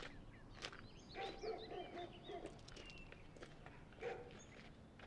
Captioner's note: dog barking